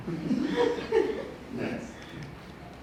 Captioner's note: audience laughs